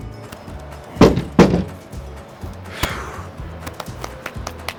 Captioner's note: dropped log thumps